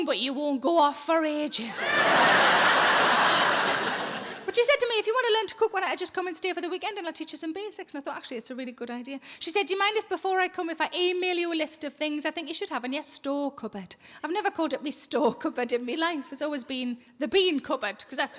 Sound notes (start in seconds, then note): 1.7 audience laughs